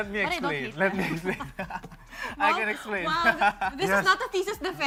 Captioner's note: chuckles